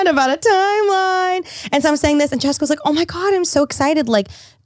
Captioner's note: none